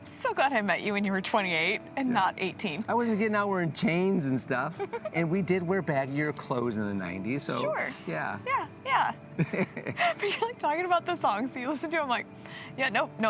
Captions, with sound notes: So glad I met you when you were 28 and not 18. I wasn't getting out, we're in chains and stuff. And we did wear bad year clothes in the 90s, so yeah. Sure, yeah, yeah. (laughing) But you're like talking about the songs, so you listen to them like, yeah, nope,